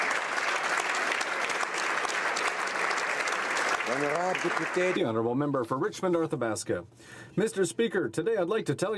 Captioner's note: applause